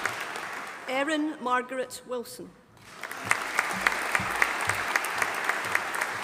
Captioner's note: audience applauding